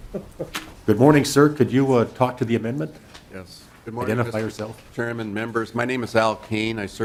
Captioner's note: laughter